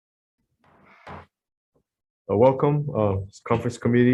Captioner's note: gavel bangs